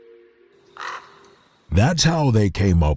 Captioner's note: cymbals ringing; crow cawing